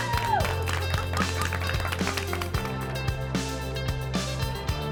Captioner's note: everyone clapping